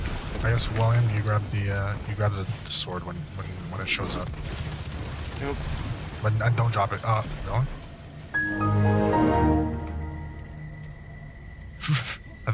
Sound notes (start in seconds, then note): 8.4 Windows XP log off Sound effect